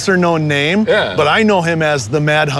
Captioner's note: laughs